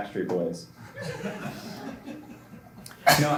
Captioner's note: laughter